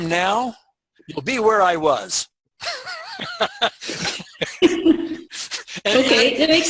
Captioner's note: laughs